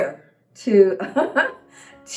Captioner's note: laughter